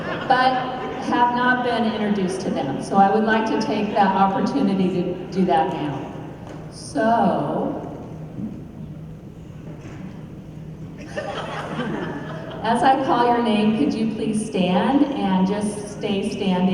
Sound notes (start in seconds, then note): 11.0 laughter